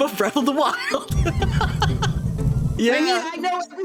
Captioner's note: Laughing at Ally's expense